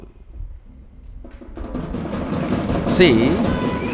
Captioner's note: celebration happening